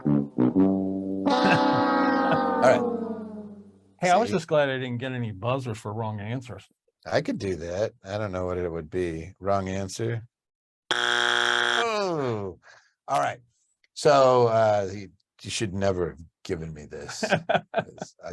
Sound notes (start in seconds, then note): 1.2 ominous music; 10.9 buzzer ringing